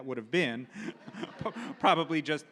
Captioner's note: audience laughs